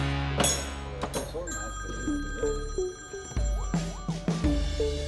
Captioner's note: phone ringing